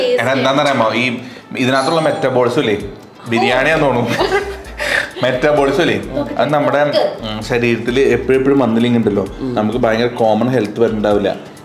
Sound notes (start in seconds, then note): 1.5 calling bell rings; 4.0 laughs